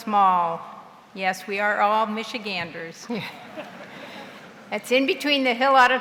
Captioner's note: laughs